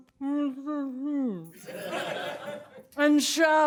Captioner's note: laughter